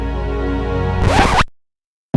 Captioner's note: heavenly choir; record scratch